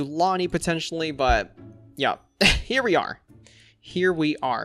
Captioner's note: chuckles